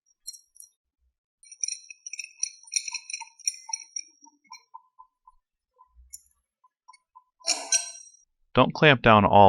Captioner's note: metal sound from tightening the nuts